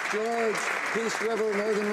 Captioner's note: applause